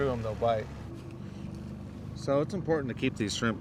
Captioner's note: boat engine idling